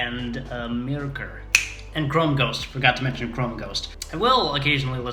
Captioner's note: snaps